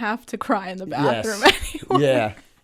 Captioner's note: chuckle